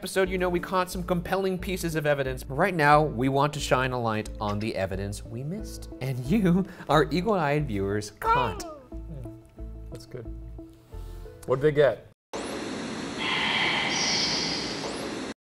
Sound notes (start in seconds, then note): 8.2 cawing; 12.4 ghostly whispering; 12.4 static